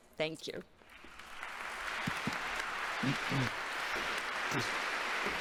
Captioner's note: congregation applauding